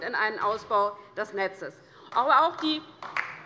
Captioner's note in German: Beifall DIE LINKE